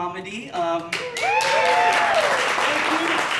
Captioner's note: audience Applauding